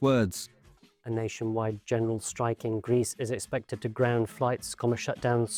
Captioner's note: robotically